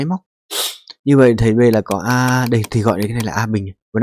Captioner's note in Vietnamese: khịt mũi